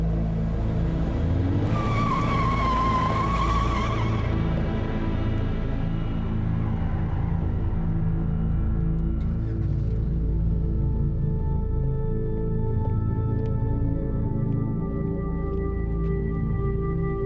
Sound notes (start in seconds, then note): 2.1 tires screeching